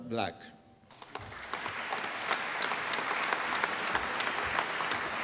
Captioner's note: applause